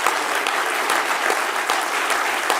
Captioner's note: continued applause